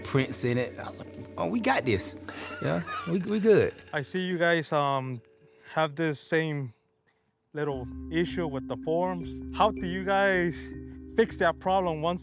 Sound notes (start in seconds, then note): 2.2 laughs